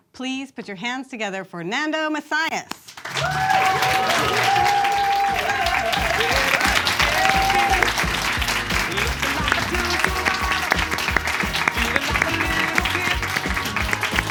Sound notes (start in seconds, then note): 3.0 audience claps; 3.4 upbeat music